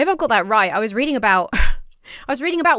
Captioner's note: laughs